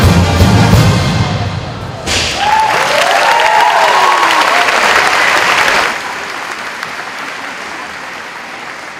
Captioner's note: applause